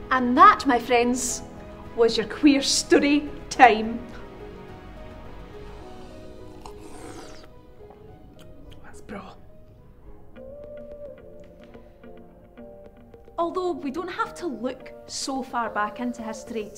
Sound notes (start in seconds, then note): 5.6 slurps drink